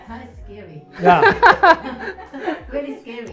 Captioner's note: laughs